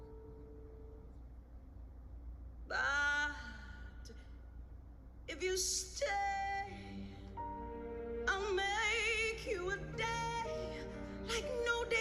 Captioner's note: speaks foreign language